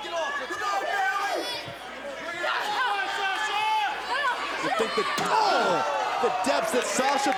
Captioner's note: crowd chatter